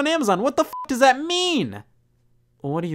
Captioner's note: beep